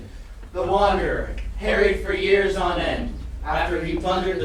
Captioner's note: chanting